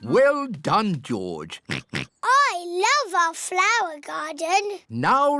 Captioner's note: oinks